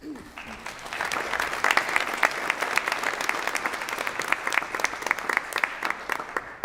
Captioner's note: applause